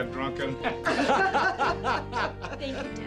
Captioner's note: laughter